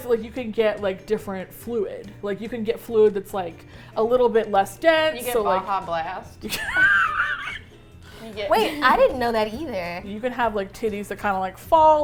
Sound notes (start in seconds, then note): 5.1 dryly; 6.5 all laugh